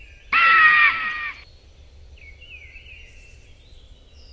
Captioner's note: eagle shrieking